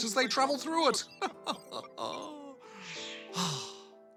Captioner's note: laughs